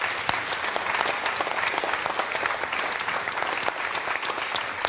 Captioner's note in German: Applaus